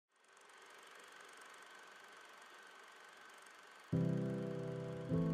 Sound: film reel clacking

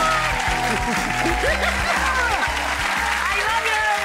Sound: laughs

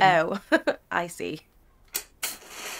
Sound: laughing

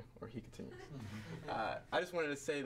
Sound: audience members laugh

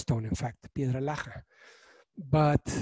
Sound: speaking in foreign language

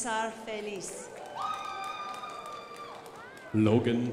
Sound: crowd applauding

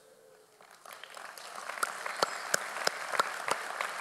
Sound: audience applauds

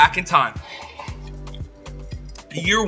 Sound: slurps the milk

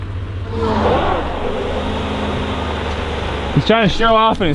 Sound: engine roars

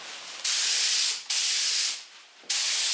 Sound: hiss

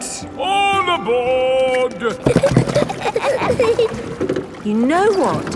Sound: giggling

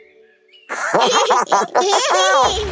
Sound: giggling

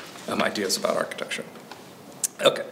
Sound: pages rustling

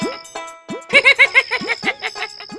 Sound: laughs

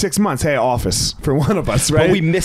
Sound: chuckling

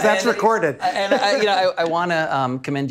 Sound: laughing

